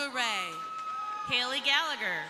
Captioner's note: crowd cheering